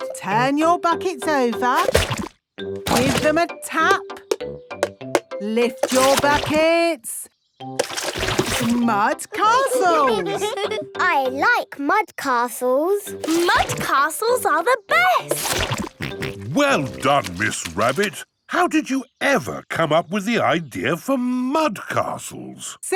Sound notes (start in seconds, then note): 4.4 taping; 9.4 all giggling